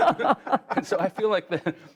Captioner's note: laughter